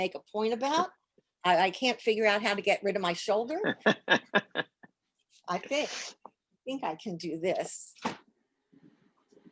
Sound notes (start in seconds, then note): 3.6 laughs